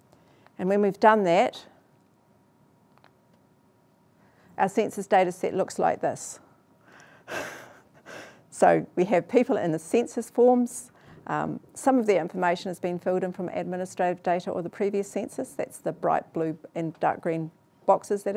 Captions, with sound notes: And when we've done that, our census data set looks like this. (laughs) So we have people in the census forms. Some of the information is being filled in from administrative data or the previous census, that's the bright blue and dark green boxes